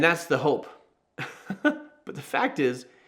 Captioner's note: host chuckling